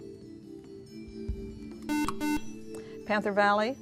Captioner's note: buzzer